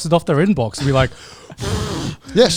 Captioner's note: blows